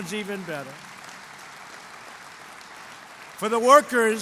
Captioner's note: applause